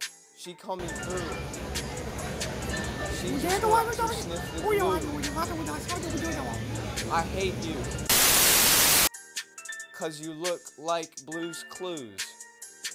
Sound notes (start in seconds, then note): 8.1 TV static